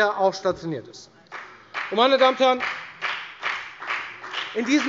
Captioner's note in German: Beifall bei der FDP